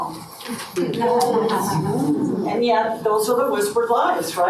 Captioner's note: audience chuckles